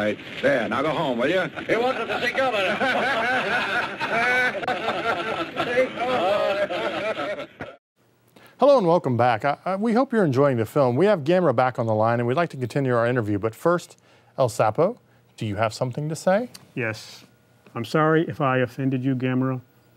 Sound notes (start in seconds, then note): 4.6 men laughing